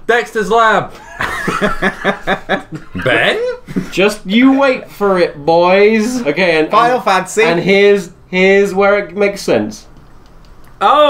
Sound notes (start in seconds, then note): 1.0 laughing